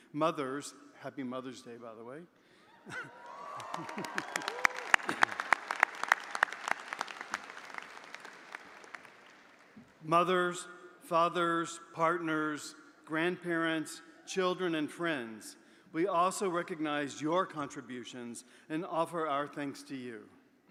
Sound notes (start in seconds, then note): 2.8 audience cheering; 2.9 audience applauding